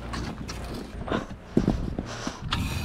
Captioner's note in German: klappern